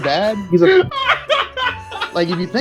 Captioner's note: laughing